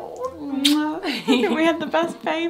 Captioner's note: lips smooching